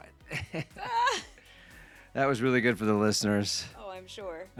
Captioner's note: laughing